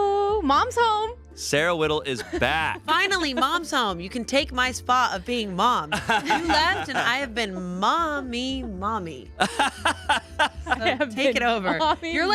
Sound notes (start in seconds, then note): 5.9 laughs; 9.4 laughs